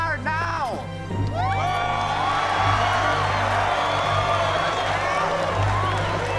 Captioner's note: cheers and applause